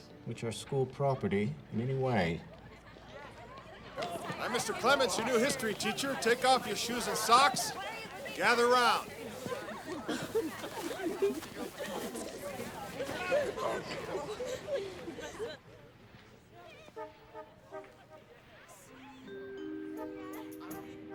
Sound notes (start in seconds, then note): 3.1 students chattering; 10.0 students chattering excitedly; 17.1 lighthearted orchestral music